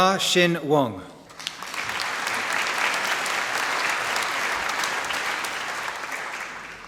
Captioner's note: applause